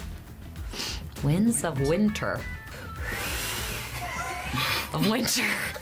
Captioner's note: exhales